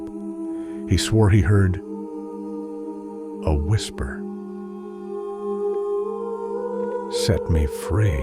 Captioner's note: a whisper